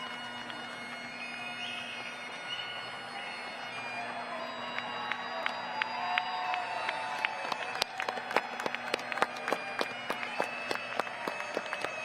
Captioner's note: applause